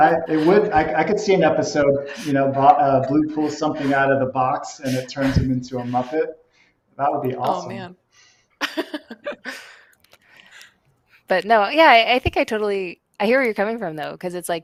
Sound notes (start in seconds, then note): 8.6 laughs